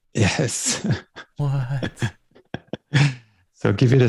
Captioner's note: laughter